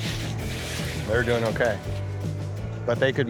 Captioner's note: pat